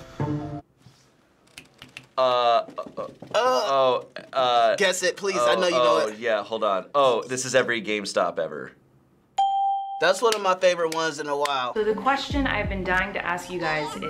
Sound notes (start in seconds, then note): 1.5 snapping; 9.4 ding